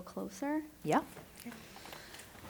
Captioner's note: shuffling chairs